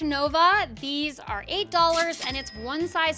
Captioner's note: cash register dings